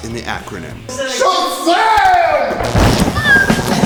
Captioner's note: thunder